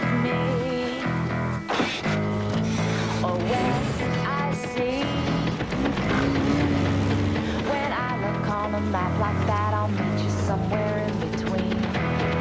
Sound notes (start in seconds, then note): 5.8 sputtering of engine